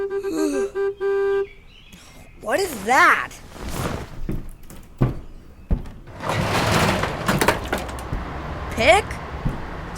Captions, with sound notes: [ Mars yawns ] Oh, what is that! [ Footsteps ] [ Door opens ] Pick?